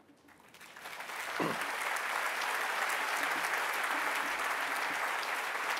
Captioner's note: applause